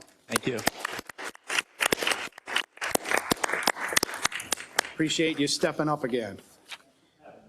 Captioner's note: applause